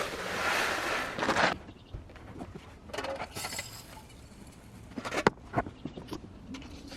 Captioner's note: plastic scraping and food pelting; birds chirping and metallic clinking; metallic clinking